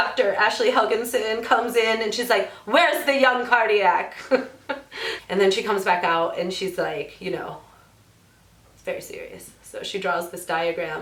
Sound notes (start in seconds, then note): 2.7 dramatic voice; 4.4 laughs